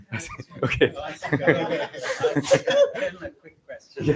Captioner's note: laughter